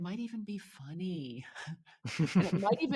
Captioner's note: chuckles